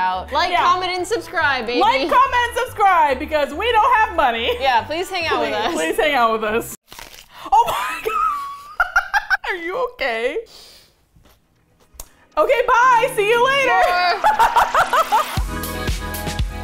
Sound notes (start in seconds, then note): 6.8 onion crunch; 7.5 laughs; 7.6 laughs hysterically; 13.9 laughs